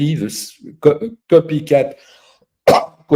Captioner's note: cough